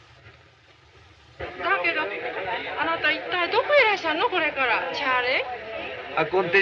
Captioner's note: foreign language